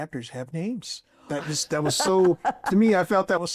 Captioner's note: laughs